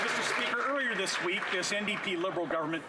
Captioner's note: some Applause